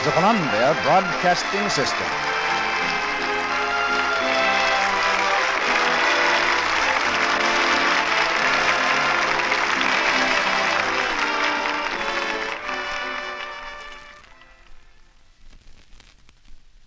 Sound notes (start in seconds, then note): 5.4 applause